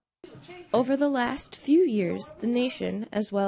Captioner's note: voiceover